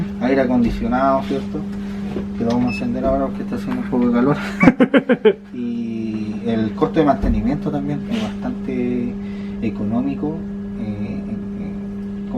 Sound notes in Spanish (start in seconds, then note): 4.3 risas